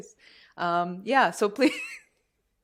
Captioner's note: laughter